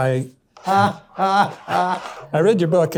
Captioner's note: laughs